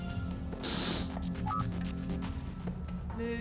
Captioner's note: static